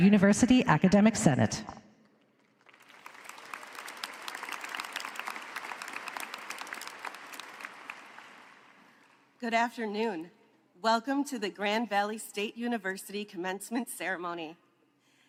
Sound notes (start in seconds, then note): 9.2 applause